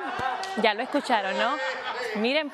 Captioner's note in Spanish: risas